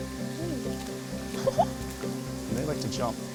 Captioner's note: laughs